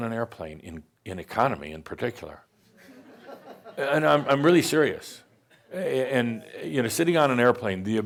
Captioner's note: some chuckles